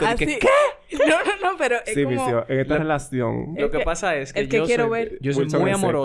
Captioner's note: laughs